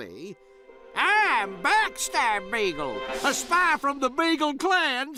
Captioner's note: voice changes